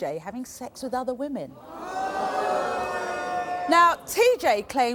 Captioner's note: audience groaning and booing